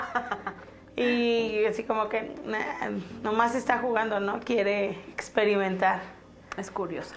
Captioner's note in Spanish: haha